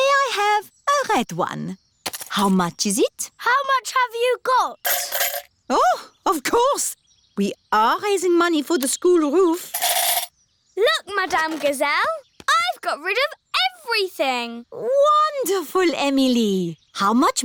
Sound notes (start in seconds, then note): none